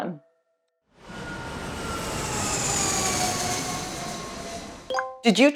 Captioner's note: jet engine